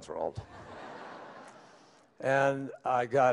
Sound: laughter

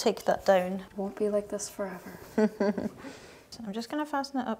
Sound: chuckling

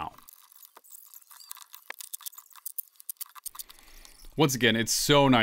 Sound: sped up sounds of laying cement board

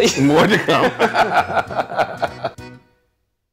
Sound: laughing

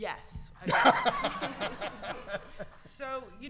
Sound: audience laughter

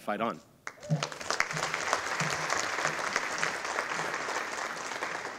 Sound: audience applauding

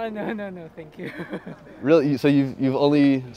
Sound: laughter

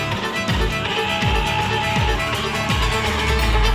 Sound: shouting

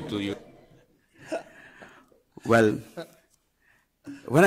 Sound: group laughing

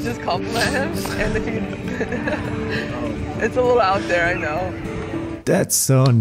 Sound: giggles

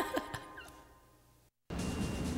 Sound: laughs

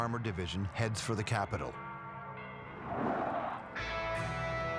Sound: church bells ring

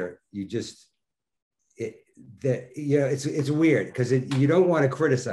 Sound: none

